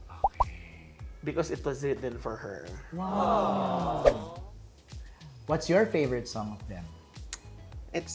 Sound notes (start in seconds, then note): 3.0 "aww" sfx track plays